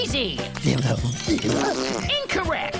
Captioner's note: free-zee babbles